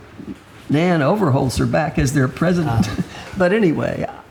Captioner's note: laughs